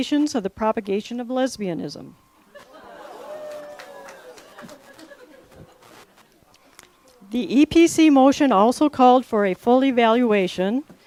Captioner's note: laughter, awe's, cheering, clapping